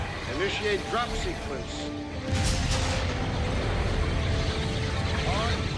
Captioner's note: loud explosion